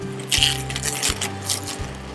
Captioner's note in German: Mähgeräusche